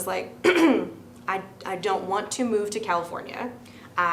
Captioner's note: clears throat